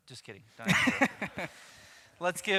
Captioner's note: laughs